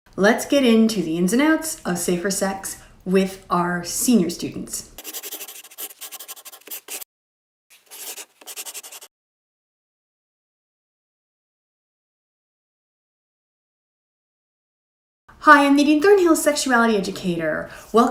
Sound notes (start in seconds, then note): 5.0 scribbling; 9.5 silence